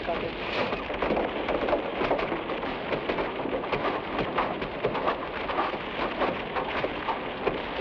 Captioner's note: footsteps patter; branches smack